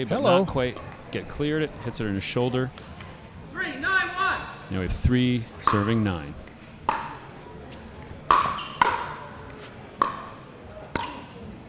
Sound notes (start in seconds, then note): 8.0 ball bouncing